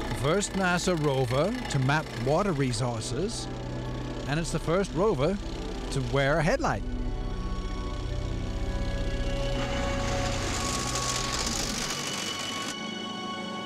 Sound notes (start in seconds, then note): 8.0 ethereal music; 8.0 vehicle humming